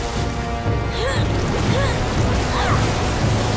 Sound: grunting

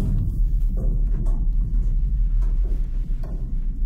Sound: door banging

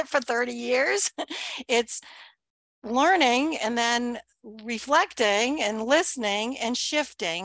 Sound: chuckles

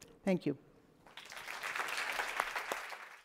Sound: applause

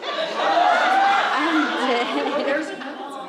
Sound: audience laughs

